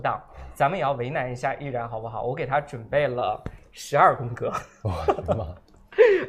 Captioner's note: laughs